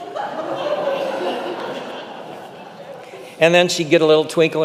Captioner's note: congregation laughing